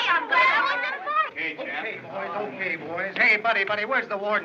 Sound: chattering

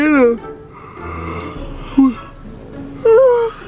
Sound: yawning

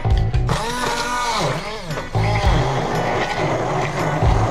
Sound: blender whirring

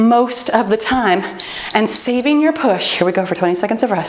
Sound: timer beeping

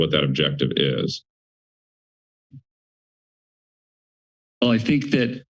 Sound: pause

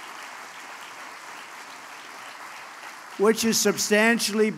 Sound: applause

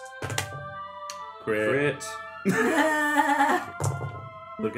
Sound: dice roll and laughter

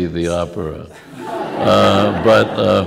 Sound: laughter

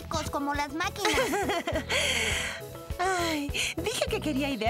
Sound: laughing

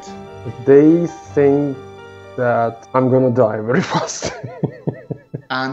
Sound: laughs

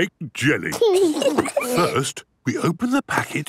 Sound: giggles

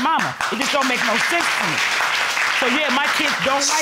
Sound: applauding

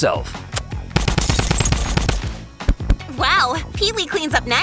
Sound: gun firing

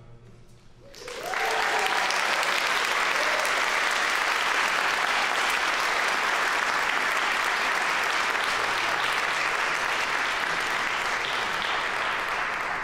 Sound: applause

